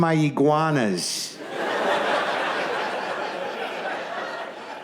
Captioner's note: audience laughs